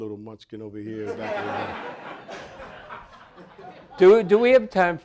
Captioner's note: audience laughing